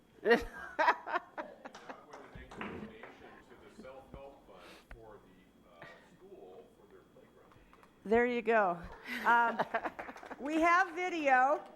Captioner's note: laughter